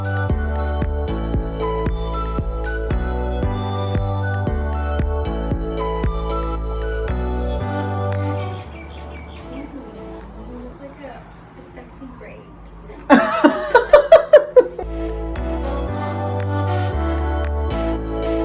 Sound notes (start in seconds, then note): 0.2 dance music continues; 13.0 both laughs; 14.8 dance music plays